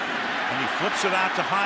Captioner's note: cheering